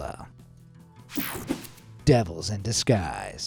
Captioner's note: screen buzzes and whooshes